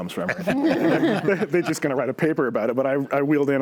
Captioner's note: panels laughing